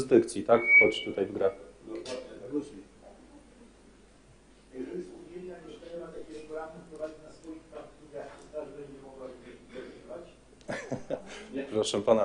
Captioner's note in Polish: śmiech